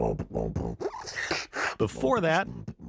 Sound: beatboxing

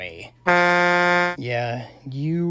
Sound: honk

